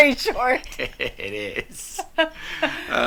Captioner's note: laughs